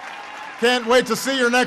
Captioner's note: applause